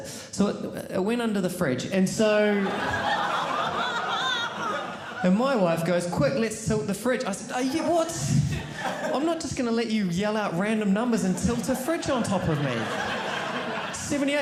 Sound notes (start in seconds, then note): 2.5 audience laughing